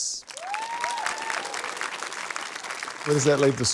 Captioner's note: cheering, applause